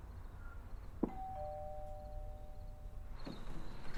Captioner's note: doorbell rings